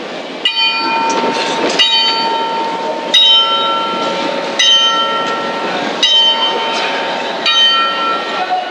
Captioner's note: clock chimes the hour of six